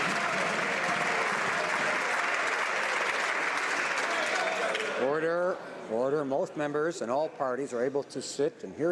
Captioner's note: some Applause